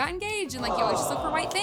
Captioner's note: audience cooing